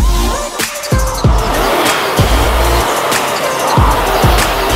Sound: equipment whirring

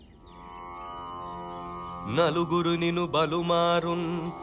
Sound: reciting a poem

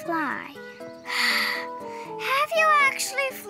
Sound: Honeycomb sighs

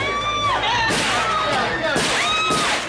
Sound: gunfire

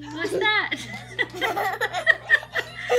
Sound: laughing

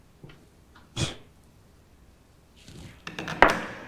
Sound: scoff

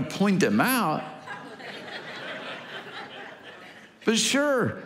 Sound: congregation laughing

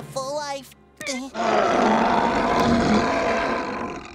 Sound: growling; snoring

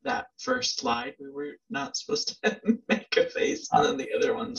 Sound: laughs

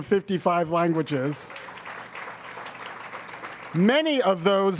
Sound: audience applauds

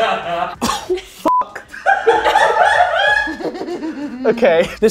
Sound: all laughing; beep; laughing; girls laughing

